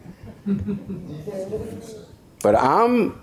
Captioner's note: audience laughs